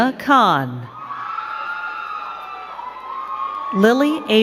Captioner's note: crowd cheering and clapping